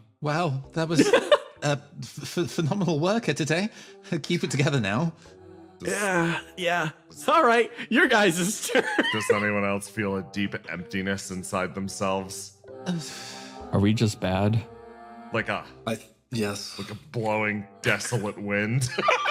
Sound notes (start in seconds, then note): 12.7 Gartrinus Huffs; 18.8 laughs